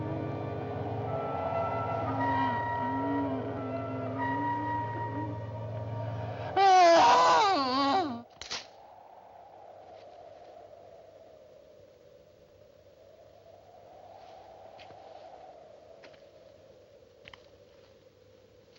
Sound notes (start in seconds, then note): 0.2 woman Moaning Quietly; 7.4 groans Loudly